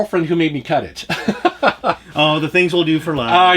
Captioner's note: laughs